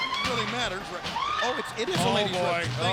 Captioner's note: lady screaming